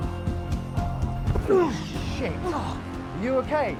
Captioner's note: Dan groaning